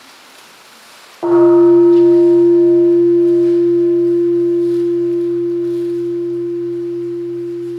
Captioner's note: bell ringing